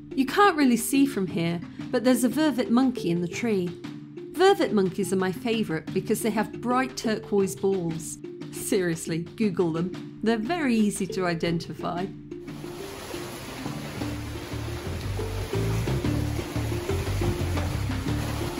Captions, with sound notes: You can't really see from here, but there's a vervet monkey in the tree. Vervet monkeys are my favorite because they have bright-turquoise balls. Seriously, Google them, they're very easy to identify. [rain]